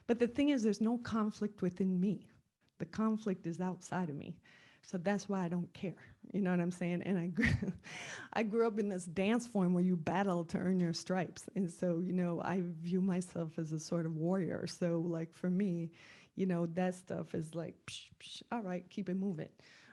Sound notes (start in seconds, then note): 7.1 laugh